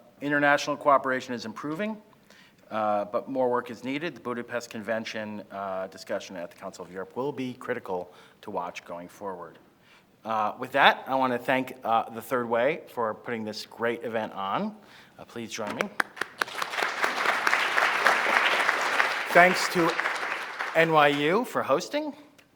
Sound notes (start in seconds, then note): 15.7 applauds; 15.8 crowd applauding; 21.6 applauds